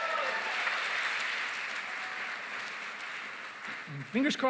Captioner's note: cheering, applause